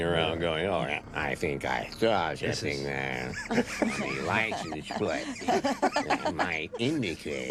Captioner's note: nerd voice